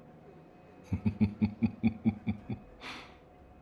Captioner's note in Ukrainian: злісно гигикає